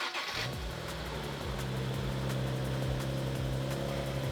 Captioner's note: engine revving